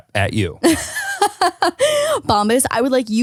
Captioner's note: laughs